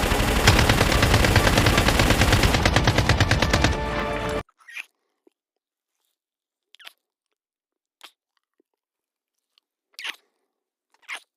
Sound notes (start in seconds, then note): 0.0 gunshots; 6.7 kissing